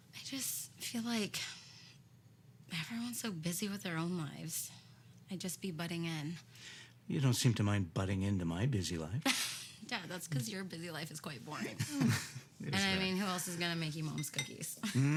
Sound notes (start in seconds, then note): 11.6 laughs; 11.6 Steve laughs